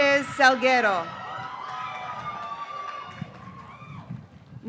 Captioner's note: graduates cheering